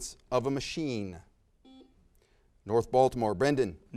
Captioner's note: buzzer sounds